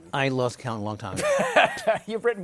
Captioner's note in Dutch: Laughs